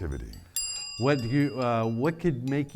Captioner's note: bell dings